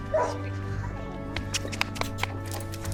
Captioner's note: dog barks